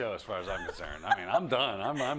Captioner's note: laugh